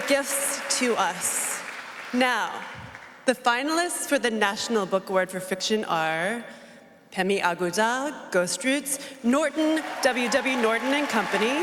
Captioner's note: applause